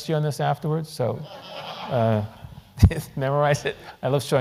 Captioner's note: laugh